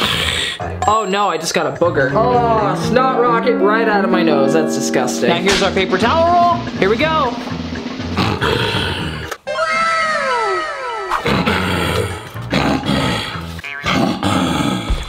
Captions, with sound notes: Oh no. I just got a booger. Oh, snot rocket right out of my nose. That's disgusting. And here's our paper towel roll. Here we go. (snorts) Wow! (lion roar)